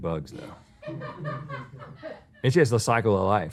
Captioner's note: laughter